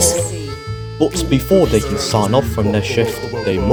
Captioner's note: background chanting